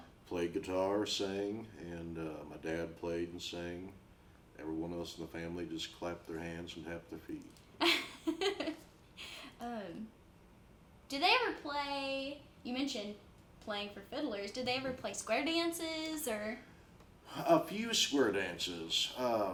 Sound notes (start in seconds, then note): 7.8 laughs